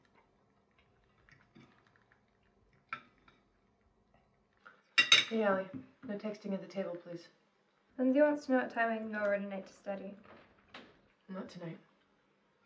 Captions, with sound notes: (plates clanking) - Hey, Ali, no texting at the table, please. - Lindsey wants to know what time I can go over tonight to study. - Not tonight.